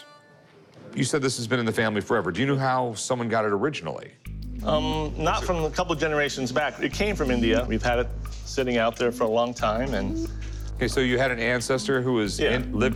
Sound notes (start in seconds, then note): none